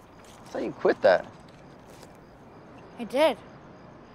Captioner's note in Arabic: none